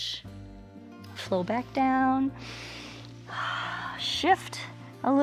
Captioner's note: inhales and exhales